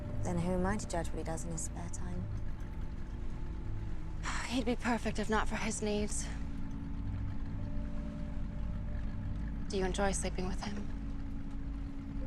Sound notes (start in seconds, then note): 4.3 sighs